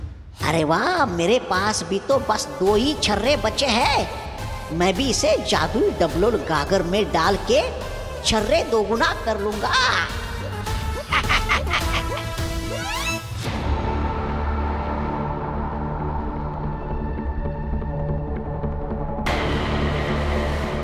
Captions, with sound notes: 'Great! I'm also left with just two pellets.' 'I'll also put it in the magical doubling pot, ' 'and double the magical pellets.' [giggles] [eerie music]